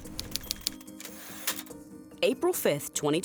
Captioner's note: tense music; typewriter typing; typewriter dings